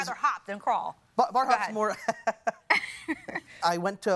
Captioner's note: laughing; chuckles